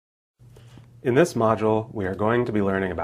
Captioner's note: voiceover